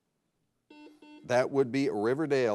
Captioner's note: buzzer blares